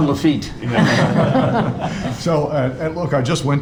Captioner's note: all laughing